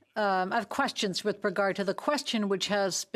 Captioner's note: speaking French